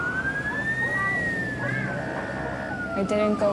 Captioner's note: sirens; children arguing